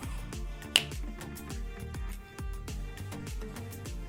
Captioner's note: snaps fingers